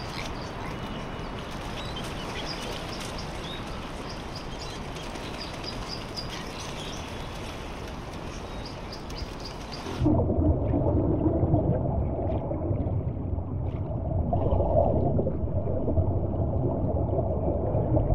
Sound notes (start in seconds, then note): 10.4 ambient underwater sounds